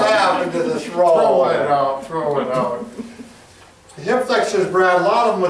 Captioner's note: laughing